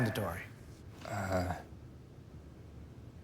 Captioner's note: quietly